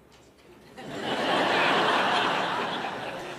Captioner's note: Laughter; 笑聲